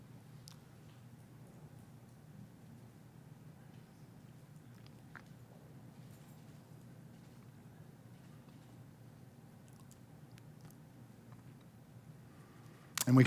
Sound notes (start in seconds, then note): 1.5 silence